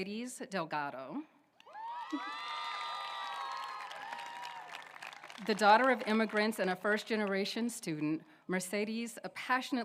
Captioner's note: applause